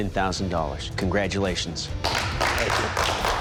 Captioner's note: applause